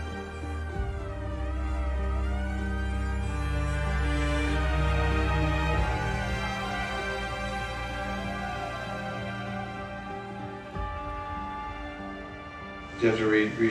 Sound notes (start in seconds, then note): 0.1 inspirational music; 4.5 police sirens